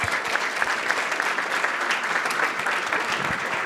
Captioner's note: applause